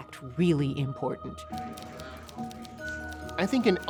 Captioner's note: typewriters clacking